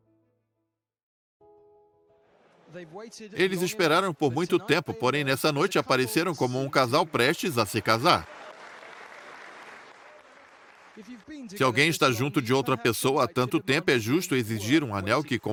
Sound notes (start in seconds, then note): 8.1 audience applauds